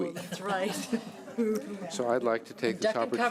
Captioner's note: laughing